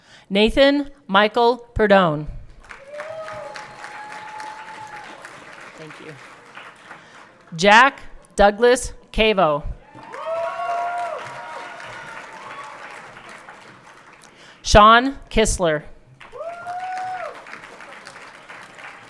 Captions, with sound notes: Nathan Michael Pardoen. (everyone clapping) Thank you. Jack Douglas Cavo. (everyone cheering) Sean Kissler. (everyone cheering)